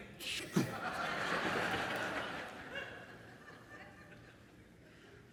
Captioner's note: audience laughs